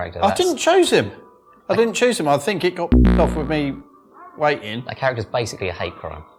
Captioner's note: bloop